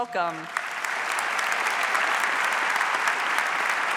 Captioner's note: audience applauds